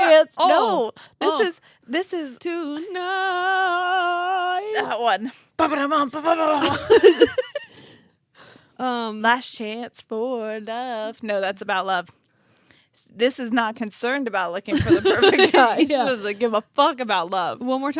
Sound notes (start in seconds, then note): 5.8 humming; 6.3 laughing